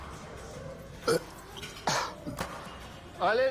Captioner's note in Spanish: Eructo